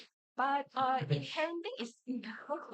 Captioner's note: everyone laughs